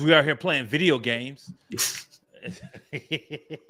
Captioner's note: laughter